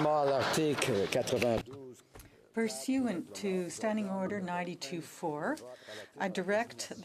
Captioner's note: some Applause